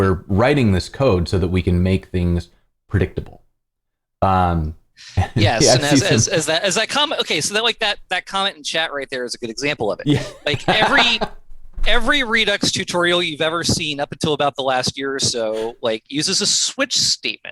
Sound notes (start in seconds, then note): 10.0 laughter